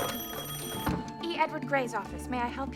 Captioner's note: rings